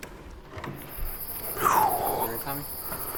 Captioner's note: exhales